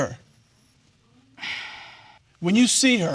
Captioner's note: sighs